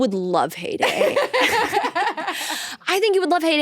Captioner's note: both laughing